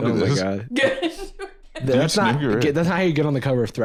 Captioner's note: laughing